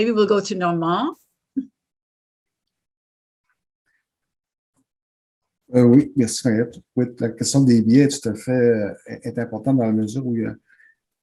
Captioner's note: French